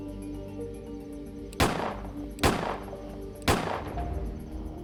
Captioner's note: gunshots fire